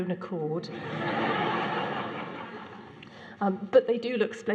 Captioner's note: laughter